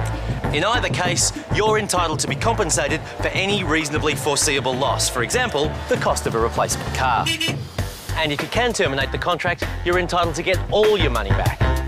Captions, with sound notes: In either case, you're entitled to be compensated for any reasonably foreseeable loss, for example the cost of a replacement car. (Honks horn) And if you can terminate the contract, you're entitled to get all your money back.